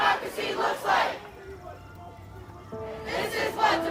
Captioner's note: ghostly Voice